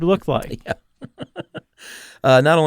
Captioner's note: laughs